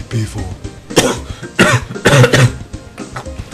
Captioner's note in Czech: kašle